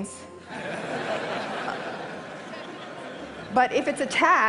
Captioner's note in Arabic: ضحك